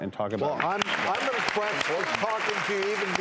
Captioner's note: applause